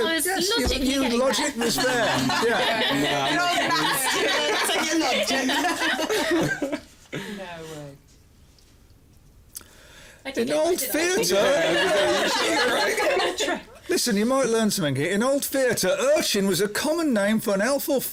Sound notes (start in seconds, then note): 1.3 laughter; 5.1 chuckles; 11.3 laughter